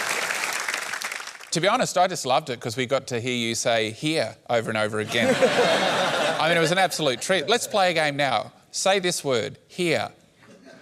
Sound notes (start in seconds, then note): 5.1 laughter; 10.6 strong welsh accent